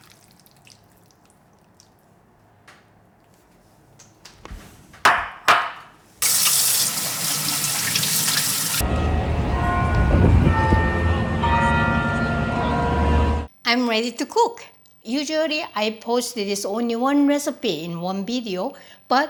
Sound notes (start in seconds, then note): 8.8 bells ringing